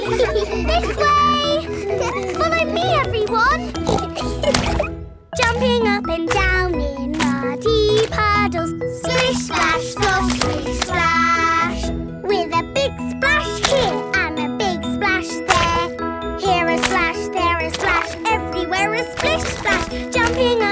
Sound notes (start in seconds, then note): 0.0 giggles; 4.3 snorts; 4.8 giggling